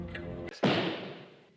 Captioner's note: clicks, glass squeaking; thud